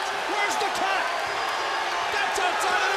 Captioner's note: crowd cheering